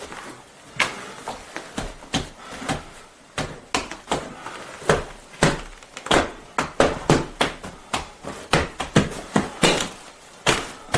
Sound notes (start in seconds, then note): 0.7 cracking and tapping; 6.6 rapping increases